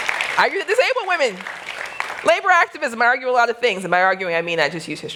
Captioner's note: applause